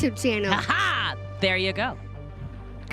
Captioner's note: laughs